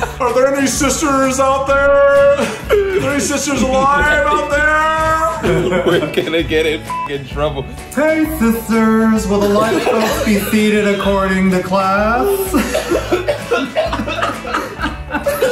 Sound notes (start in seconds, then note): 0.0 laughing; 6.9 beep; 12.2 laughing